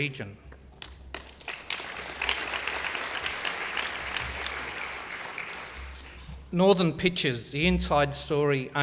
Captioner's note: applause